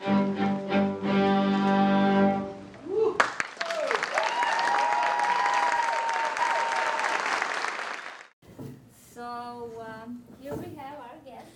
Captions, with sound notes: (cheering) - So you can tell our guests,